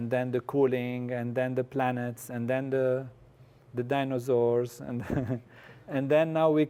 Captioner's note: laugh